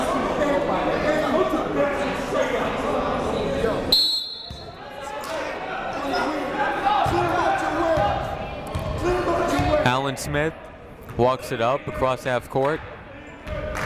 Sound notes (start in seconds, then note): 3.9 whistle blowing; 5.4 shouting